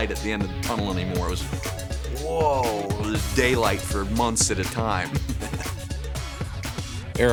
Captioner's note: laughs